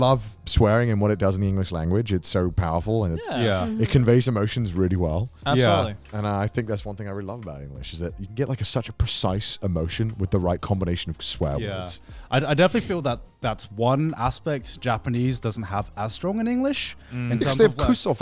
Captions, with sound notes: 'til like our bigger audience came in and left, so that we wouldn't get flack for it. - No way. - And even on our older videos, people were like, "Whoa, you fucking sellout." (men laugh) There's an ad where you go, your mouse. No one's on mobile, you're on your computer. And all you have to do is move your mouse and click the X. And people are like, "Ugh, fuck this!"